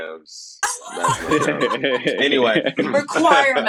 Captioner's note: laughing